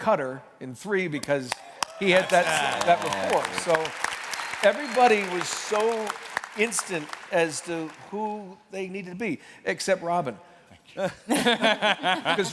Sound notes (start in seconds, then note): 4.8 applause